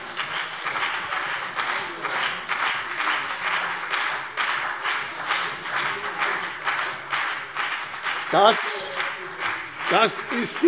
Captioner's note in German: Beifall BÜNDNIS 90/DIE GRÜNEN und CDU - Zurufe SPD